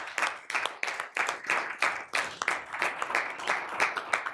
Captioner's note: applause